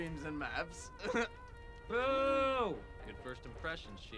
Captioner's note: chuckles